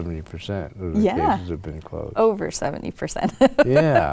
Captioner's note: laughs